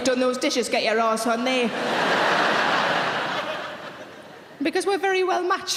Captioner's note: audience laughing